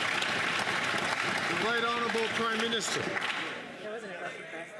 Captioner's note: some Applause